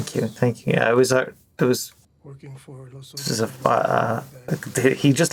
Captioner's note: stammers